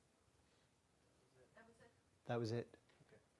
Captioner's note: voiceover